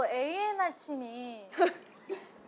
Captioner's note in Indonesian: Haha